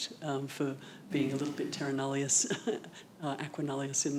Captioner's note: chuckles